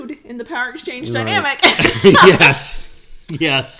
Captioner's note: both laugh